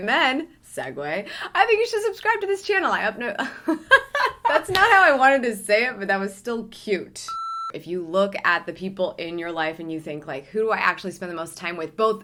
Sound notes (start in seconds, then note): 3.4 stammers; 3.5 laughs; 7.3 beeps